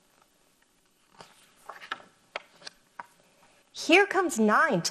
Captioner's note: paper rustles